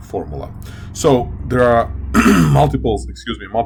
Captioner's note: clears throat